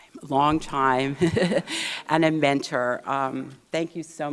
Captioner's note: laughs